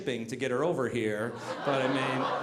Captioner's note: audience laughing